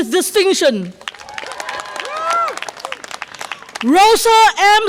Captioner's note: audience applause and cheer